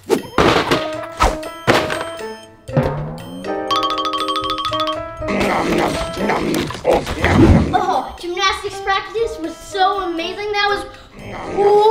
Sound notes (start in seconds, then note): 2.7 light hearted music; 5.2 Yoda eating